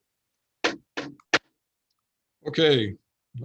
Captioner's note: gavel banging